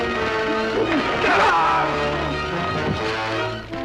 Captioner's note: yells